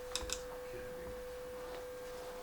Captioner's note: gentle humming